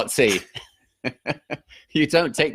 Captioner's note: both laughing